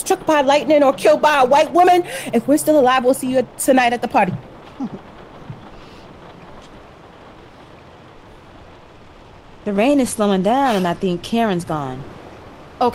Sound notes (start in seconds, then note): 6.6 rain slowing down and quieting